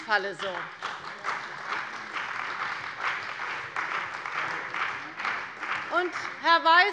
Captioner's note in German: Beifall bei der CDU und dem BÜNDNIS 90/DIE GRÜNEN